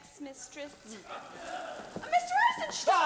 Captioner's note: audience chuckling